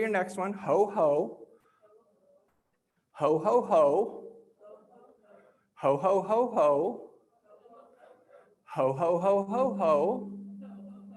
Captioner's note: laughs